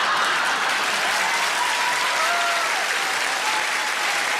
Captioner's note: audience laughs; audience applauds